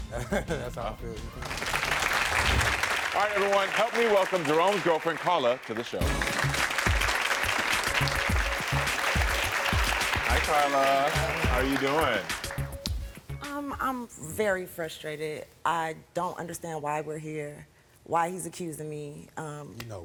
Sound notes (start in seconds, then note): 0.1 chuckles; 1.5 audience clapping; 5.9 upbeat music; 6.1 audience clapping